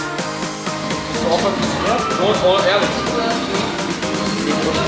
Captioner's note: upbeat music; group chatting